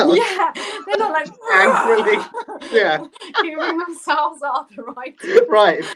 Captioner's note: roaring and moving arms around